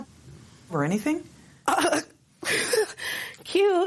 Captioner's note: laughs